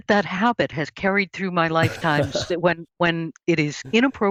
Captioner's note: laughs